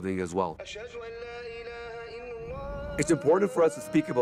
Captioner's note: man reciting prayer in Arabic